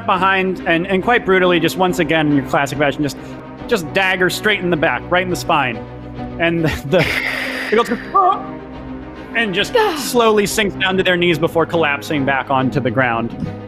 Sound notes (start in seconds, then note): 7.1 gasps